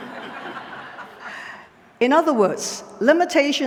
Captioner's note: laughter